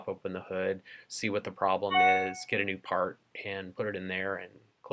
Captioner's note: computer chime